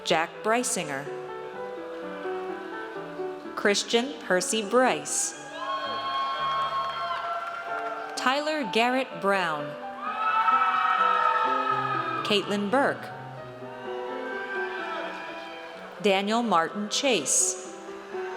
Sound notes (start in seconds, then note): 5.4 audience cheers; 9.9 audience cheers; 13.6 audience cheers